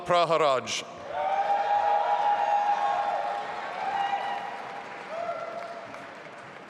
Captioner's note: audience applauding and cheering